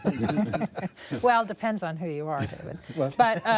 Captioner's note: laughter